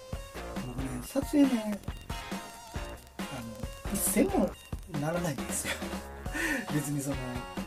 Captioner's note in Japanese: 笑い